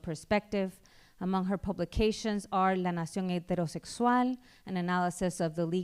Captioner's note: speaking spanish